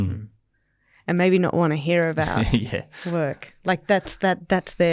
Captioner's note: laughs